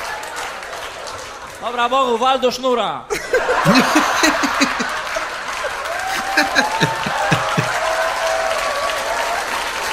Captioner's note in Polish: Aplauz